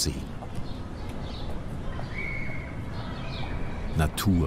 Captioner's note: birds chirping, distant traffic noise